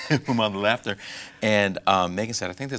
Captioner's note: laughing